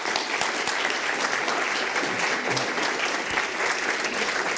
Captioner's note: applause